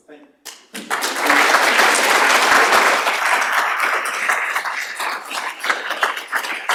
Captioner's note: applause